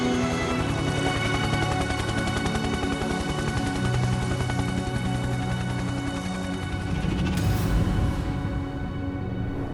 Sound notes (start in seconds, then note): 0.1 patriotic music; 3.0 helicopter whirring